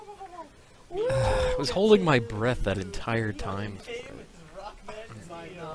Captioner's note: sigh